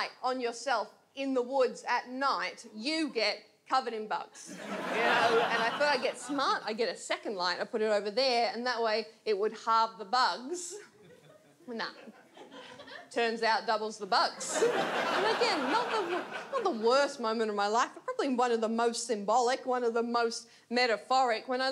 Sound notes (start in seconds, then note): 4.5 audience laughs; 14.4 audience laughs